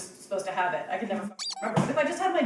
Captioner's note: squeak